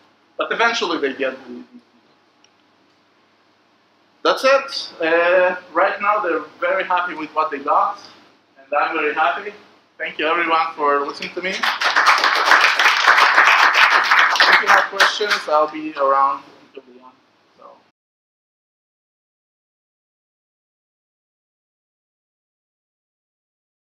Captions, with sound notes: but eventually they get it That is it! right now they are very happy with what they got, and I am very happy, thank you everyone for listening to me. *applause* if you have questions I'll be around ... Presentation, Editing & Subtitles: Evgeny Zislis / Devops Israel contact us at contact@devops.co.il